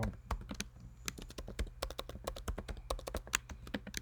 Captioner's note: keyboard tapping